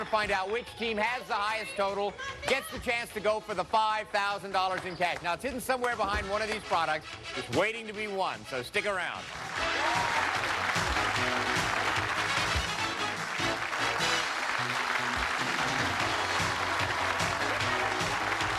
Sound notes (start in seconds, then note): 9.8 applause; 11.9 upbeat music